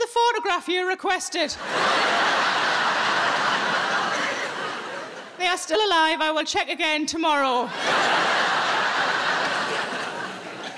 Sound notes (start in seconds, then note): 1.6 audience laughing